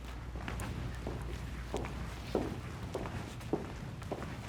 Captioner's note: footsteps clomping